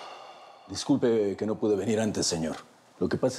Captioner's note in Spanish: exhala